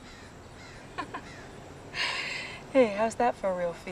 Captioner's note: laughing